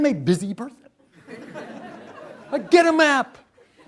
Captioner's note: laughter